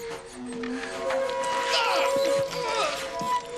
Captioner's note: man wincing